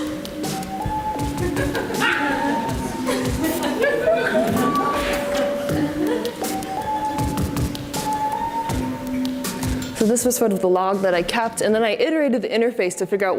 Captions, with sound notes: (audience laughs) So this was sort of the log that I kept, and then I iterated the interface to figure out